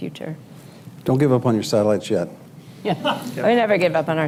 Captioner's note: laughter